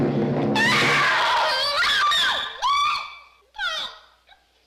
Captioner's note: screams